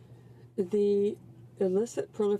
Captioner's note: speaking French